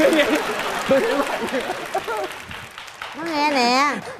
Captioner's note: clapping